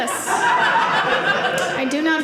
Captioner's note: audience laughing